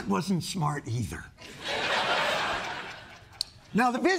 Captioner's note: laughter